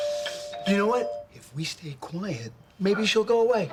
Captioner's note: doorbell